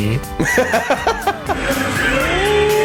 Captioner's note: laughs